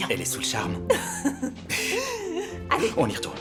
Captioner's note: laughs